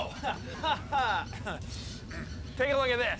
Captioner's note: chuckles; clears throat